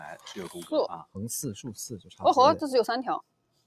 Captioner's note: laughs